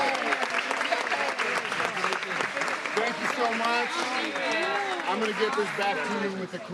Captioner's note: applause